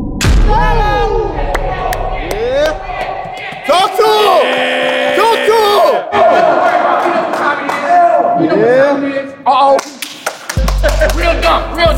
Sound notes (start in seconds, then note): 0.2 dunk sound; 1.0 cheers; 2.0 applause